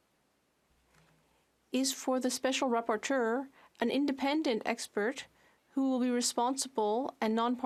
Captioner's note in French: voix de l'interprète